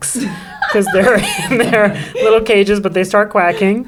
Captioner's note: Geraldine laughing; chuckles